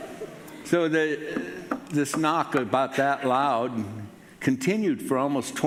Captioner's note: knocks on table